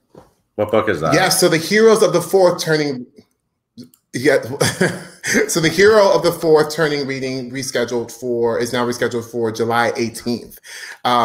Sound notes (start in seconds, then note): 4.4 laughing